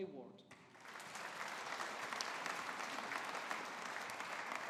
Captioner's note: audience applauding